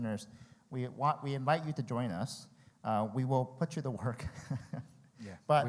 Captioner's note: laughs